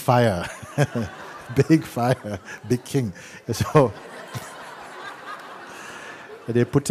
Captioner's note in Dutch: gelach